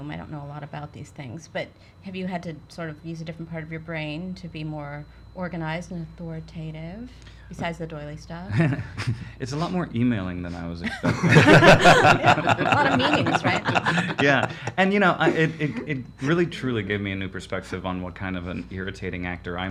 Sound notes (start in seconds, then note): 10.8 laughs